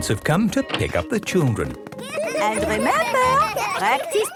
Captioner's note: laughter